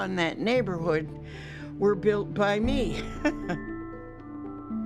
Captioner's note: chuckles